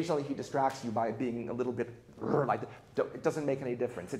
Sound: grunts

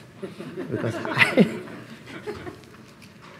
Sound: laugh

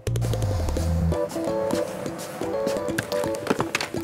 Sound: walking

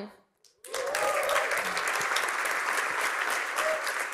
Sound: cheering and applause

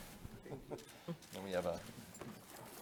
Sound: chuckling

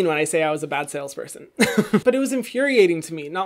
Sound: laughs

